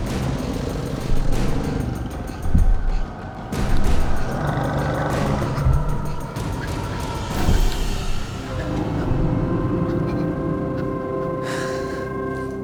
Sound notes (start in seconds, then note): 1.0 dramatic music; 4.2 growling